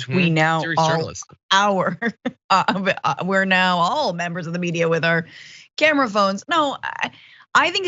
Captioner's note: laugh